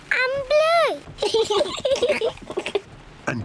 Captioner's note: both laugh